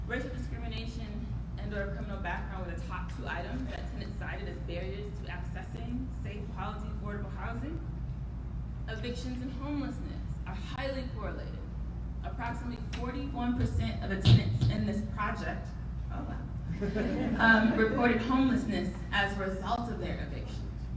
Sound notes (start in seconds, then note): 16.7 laughing